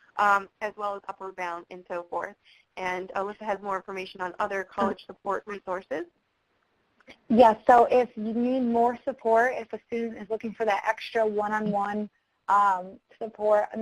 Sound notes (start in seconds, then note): 7.4 voiceover